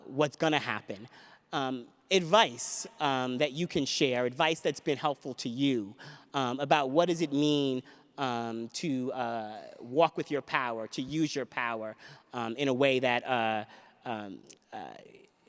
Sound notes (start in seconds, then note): none